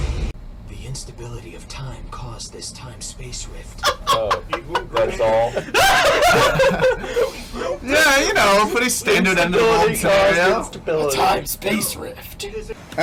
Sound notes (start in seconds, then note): 3.8 laughs; 5.7 cracks up